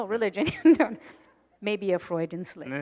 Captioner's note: laughing